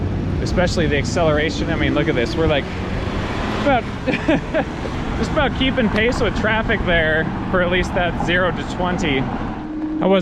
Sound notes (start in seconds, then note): 3.6 laughs